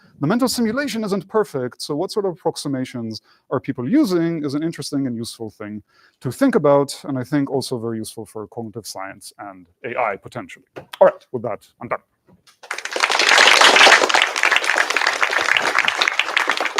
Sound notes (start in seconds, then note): 12.5 applause